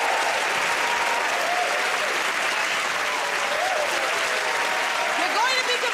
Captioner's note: cheers and applause